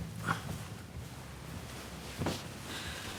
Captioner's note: none